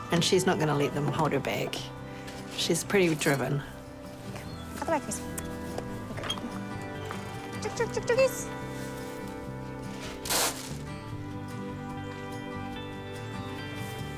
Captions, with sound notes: and she's not gonna let them hold her back. She's pretty driven. - Out the way, Chrissie. You're good. Chook-chook-chook-chookies! (FEED SCATTERS)